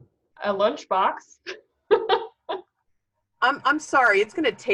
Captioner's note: laughing